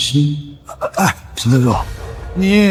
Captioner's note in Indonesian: Menghela napas